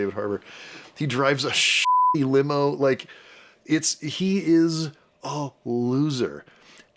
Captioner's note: beepy